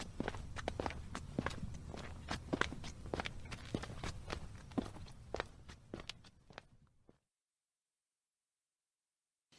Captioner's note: footsteps